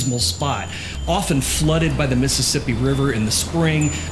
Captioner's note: roaring water